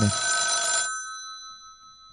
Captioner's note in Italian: squilla il telefono